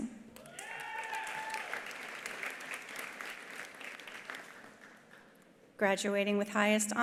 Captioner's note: attendees cheering; attendees applauding